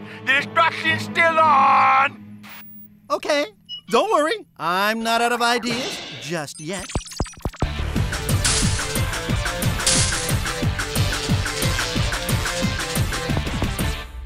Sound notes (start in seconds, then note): 6.1 beeping